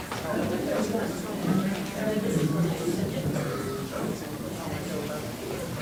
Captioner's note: crowd talking indistinctly